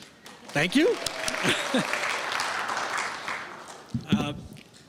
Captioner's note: clapping